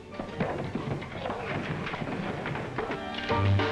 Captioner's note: scuffling; swanky music